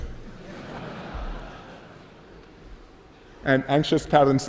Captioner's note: laughter